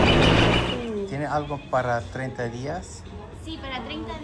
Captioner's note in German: auf Spanisch